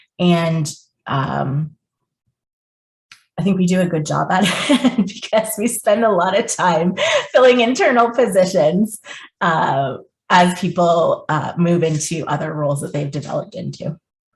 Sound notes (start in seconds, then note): 4.8 chuckles